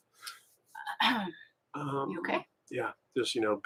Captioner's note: both clear their throats